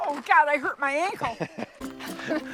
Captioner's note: laughing